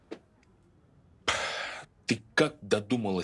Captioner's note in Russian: тяжело вздыхает